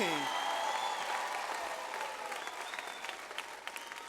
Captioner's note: audience applauds